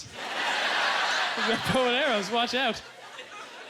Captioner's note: audience laughter